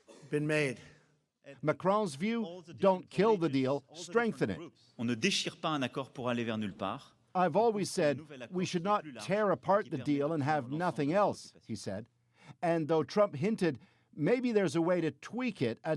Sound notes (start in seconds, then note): 7.6 speaking French